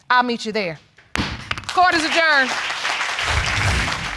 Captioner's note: audience clapping